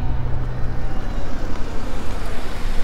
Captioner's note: Car approaching